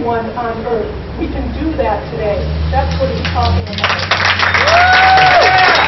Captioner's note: applause